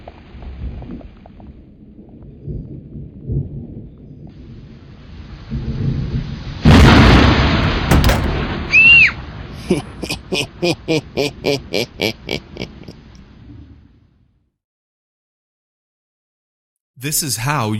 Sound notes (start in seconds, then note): 6.7 loud crash; 8.7 shreiks; 9.6 Bubba laughing